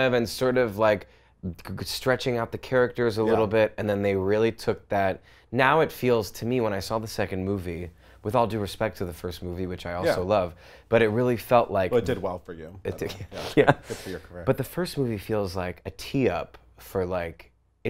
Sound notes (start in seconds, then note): 12.9 laughs